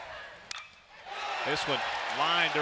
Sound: ball hitting bat

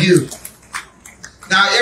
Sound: congregation clapping

